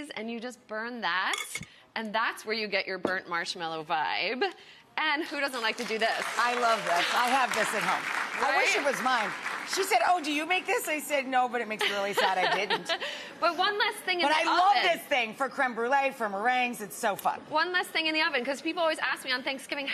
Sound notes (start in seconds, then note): 5.5 audience applauds; 11.8 Amanda laughs